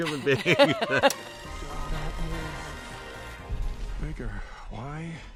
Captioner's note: projector running